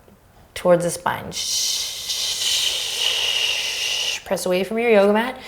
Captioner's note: shushing